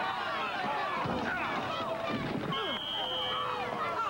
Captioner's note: whistl